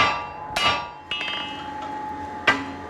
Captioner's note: metal clanging